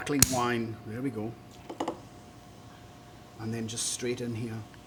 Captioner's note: cork popping